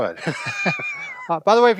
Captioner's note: laughing